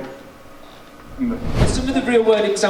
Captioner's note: air whooshing